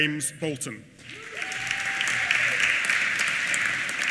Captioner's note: applause